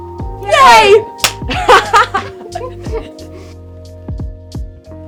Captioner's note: both laughing; chill music